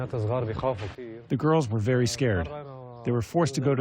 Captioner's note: through translator